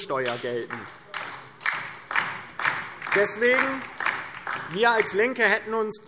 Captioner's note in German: Beifall DIE LINKE